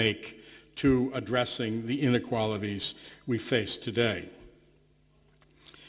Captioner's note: none